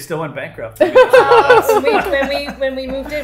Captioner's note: laughing